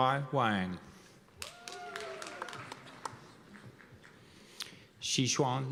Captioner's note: cheers and applause